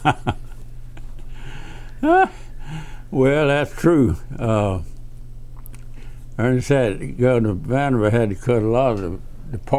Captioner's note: laughs